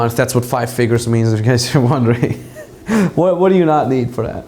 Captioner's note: giggles